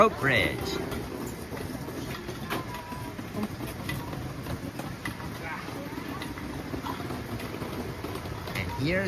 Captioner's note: walking